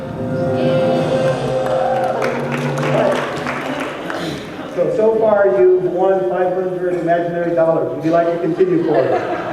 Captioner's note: applause